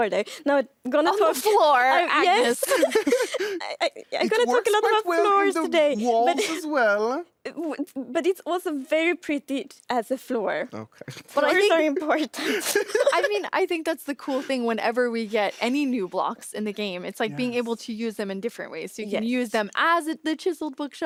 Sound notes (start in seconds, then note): 1.1 laughs; 3.1 all laughing; 10.8 laughs